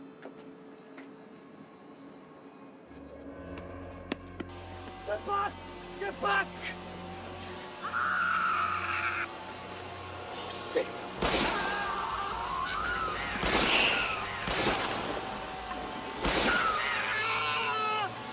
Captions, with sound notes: - Get back, get back! (screaming) Shit. (gunshots booming) (screaming)